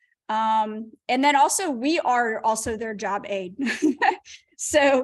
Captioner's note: laughter